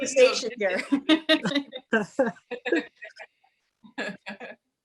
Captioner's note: laughs